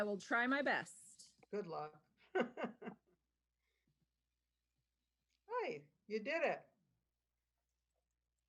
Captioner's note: laughter